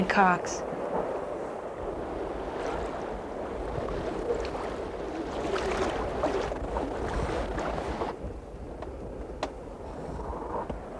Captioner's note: water sounds